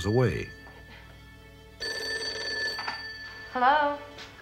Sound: phone ringing

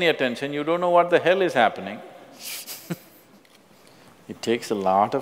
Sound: laughs

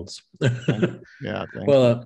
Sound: laughs

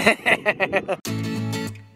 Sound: laughing; upbeat music

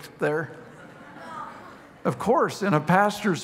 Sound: congregation laughing

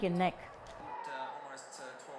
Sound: TV sounds in background

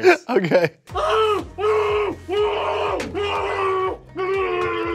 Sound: screaming

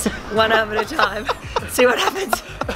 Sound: chuckling

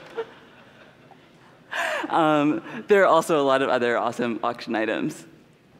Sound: laughter

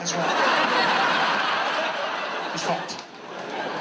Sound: audience laughs

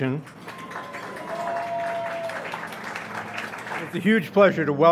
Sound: audience applauds and cheers

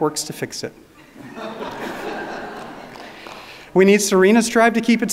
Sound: audience laughing

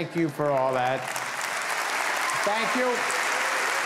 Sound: audience applauding

